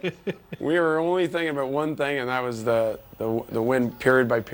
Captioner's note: laughter